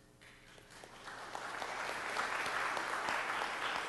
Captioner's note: applause